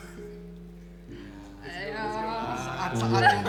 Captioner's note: sighs in pain